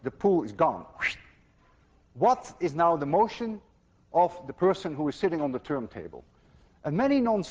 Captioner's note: makes whooshing sound